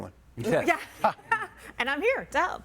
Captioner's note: laughing